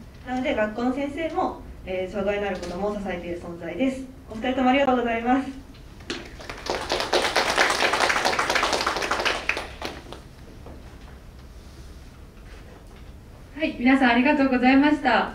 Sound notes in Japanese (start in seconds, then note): 6.1 拍手